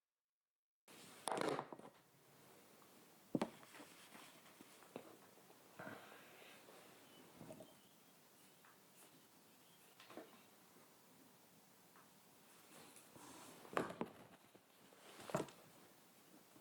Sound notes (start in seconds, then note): 1.3 the sound of moving things around on the table, and of the room